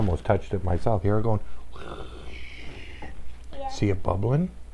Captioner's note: imitates sizzling